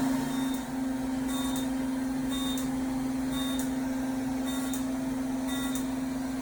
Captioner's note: machines buzzing; machines beeping